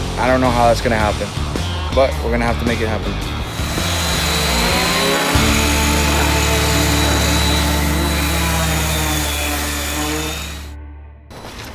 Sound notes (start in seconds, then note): 3.2 power tools humming